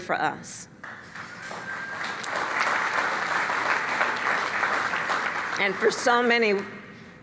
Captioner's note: applause